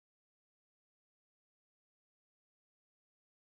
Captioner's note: none